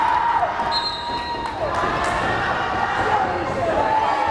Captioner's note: whistle blares